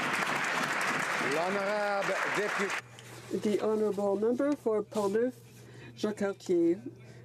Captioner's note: some Applause